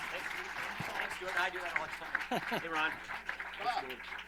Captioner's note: applause